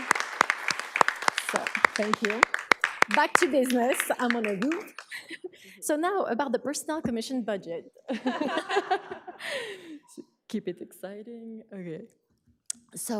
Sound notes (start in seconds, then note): 4.4 laughs; 8.1 audience laughs